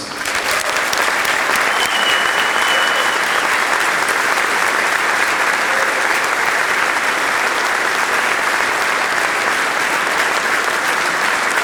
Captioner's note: applause